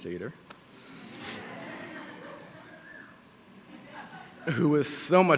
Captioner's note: audience laughing